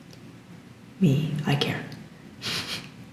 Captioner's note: whisper